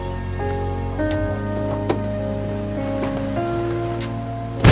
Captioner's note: door clicks; door thuds